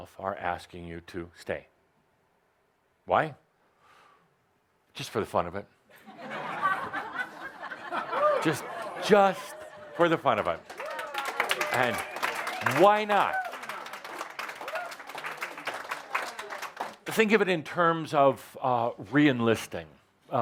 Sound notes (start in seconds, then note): 5.9 laughter; 11.1 audience applause